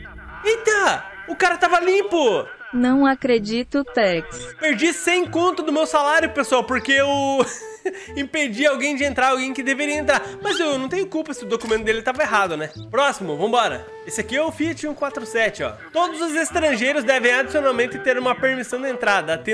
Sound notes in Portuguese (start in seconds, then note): 7.2 risos